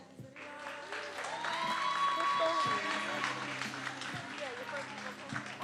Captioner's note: attendees applauding and cheering